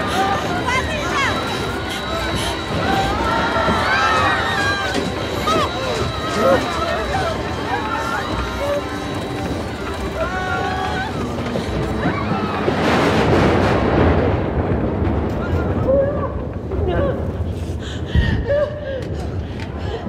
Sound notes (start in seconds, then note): 0.0 passengers shrieking; 0.0 thunder crackles; 0.0 Vanina breathing heavy; 2.8 passengers shrieking; 2.8 thunder crackles; 7.1 airplane rattling; 12.4 thunder crackling; 17.5 Vanina gasping and crying